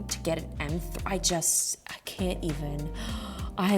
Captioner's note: gasps